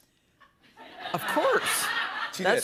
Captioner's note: laughter